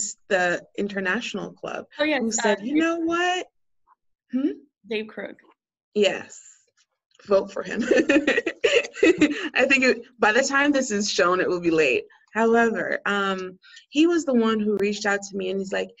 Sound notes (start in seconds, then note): 7.7 laughter